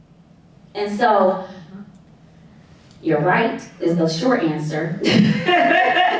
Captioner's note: laughing